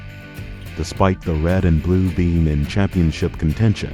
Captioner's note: voiceover